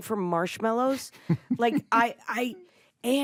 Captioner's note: chuckles